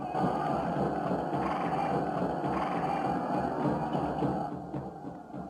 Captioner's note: army shouting